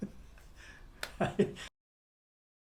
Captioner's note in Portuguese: risos